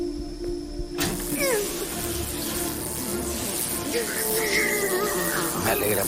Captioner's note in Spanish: Quejidos